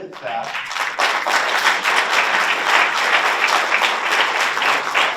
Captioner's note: audience applauds